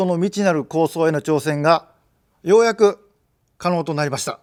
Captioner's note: none